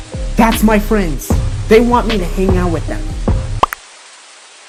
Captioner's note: none